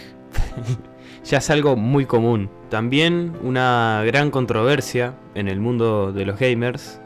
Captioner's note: idiotic laugh